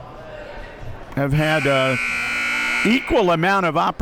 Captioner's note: buzzer blares